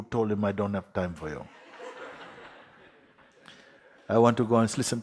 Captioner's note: laughter